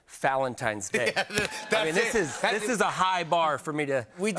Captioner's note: laughing